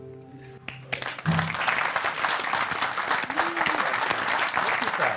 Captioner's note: applause